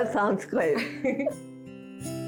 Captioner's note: laughing